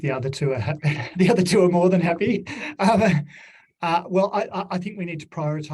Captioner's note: laughs